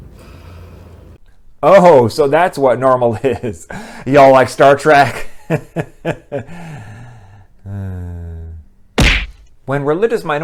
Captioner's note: sigh